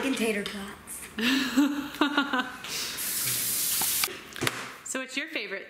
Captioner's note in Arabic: يضحك